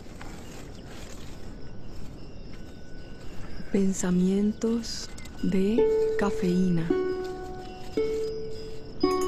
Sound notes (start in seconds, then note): 4.2 speaking in foreign language